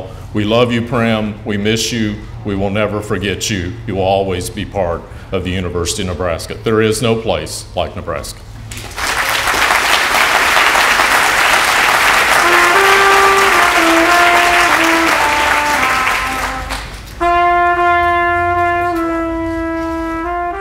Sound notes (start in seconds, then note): 8.8 applause; 12.0 slow trumpet solo